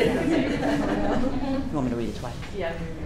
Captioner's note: laughing